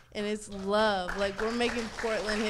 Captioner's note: audience cheering